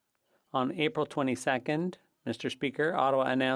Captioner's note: speaking French